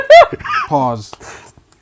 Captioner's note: laughing